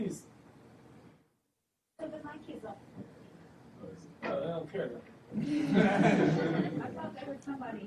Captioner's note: laughter